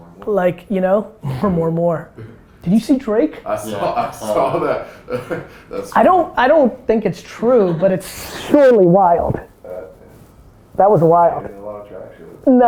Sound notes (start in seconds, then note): 3.6 laughs